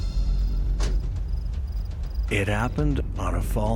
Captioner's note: door slams